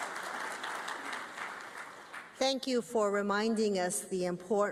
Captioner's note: applause